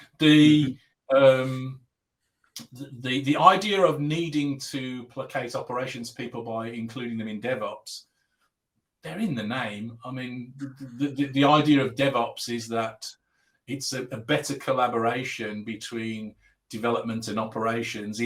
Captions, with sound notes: The idea of needing to placate operations people - by including them in DevOps... [Abbreviated speech] They're in the name. The idea of DevOps is that, - it's a better collaboration between development and operations -